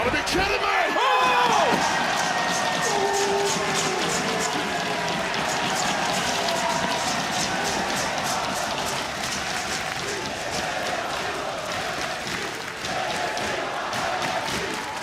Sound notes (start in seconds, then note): 2.4 crowd cheering